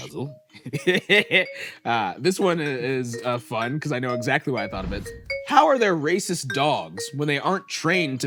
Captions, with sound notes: Puzzle. (laughs) This one is fun 'cause I know exactly why I thought of it. How are there racist dogs when they aren't "trained"